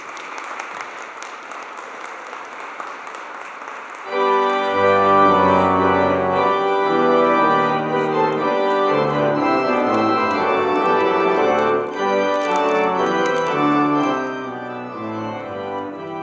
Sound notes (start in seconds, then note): 0.0 applause